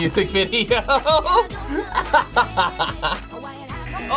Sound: laughs; buzzer

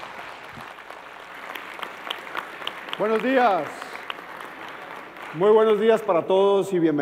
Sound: applause

